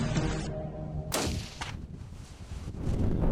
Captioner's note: gunshot